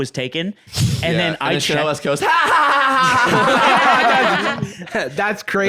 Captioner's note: obnoxious laughter